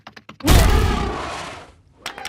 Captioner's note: growl, stomp; cheers and applause